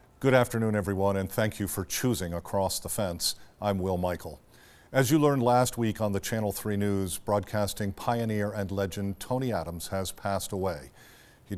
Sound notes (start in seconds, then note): none